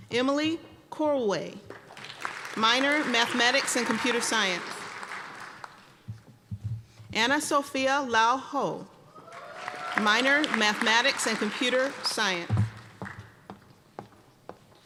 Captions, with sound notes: Emily Kolwey, minor Mathematics and Computer Science. (applause) Ana Sofia Lau Hou. (cheering and applause) Minor Mathematics and Computer Science.